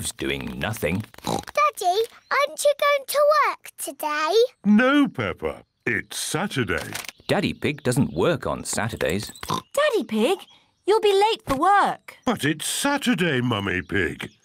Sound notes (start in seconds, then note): 1.2 oinks; 9.4 oinks